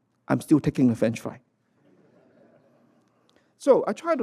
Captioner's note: laughter